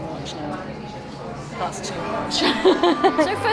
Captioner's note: ride noise and delighted screams